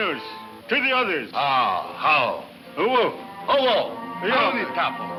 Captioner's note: speaks in foreign language